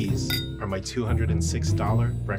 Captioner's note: glasses clinking